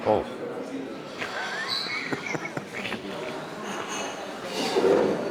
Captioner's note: laugh